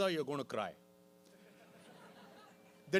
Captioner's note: laughter